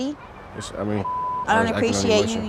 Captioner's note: beep